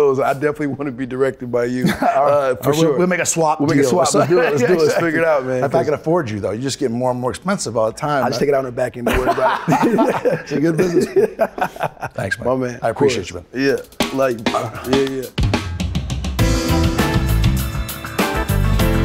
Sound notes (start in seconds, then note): 9.0 Ben laughs; 16.3 upbeat music